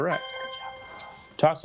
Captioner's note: bell dinging